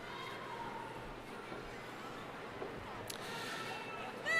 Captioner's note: crowd chattering